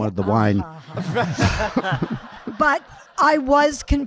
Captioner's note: audience laughing